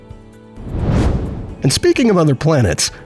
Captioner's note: whoosh